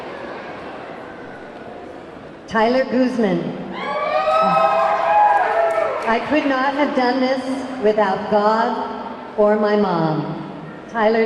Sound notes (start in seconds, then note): 3.7 audience clamoring